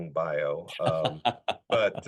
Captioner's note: laughing